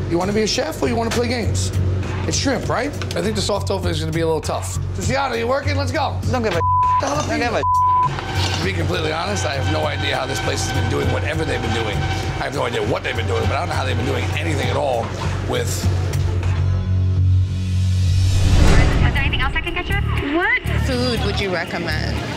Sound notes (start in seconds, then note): 6.5 beeps